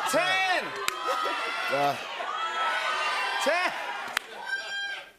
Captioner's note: audience shouting